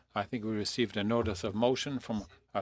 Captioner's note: speaking FRENCH